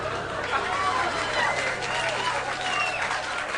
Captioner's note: cheering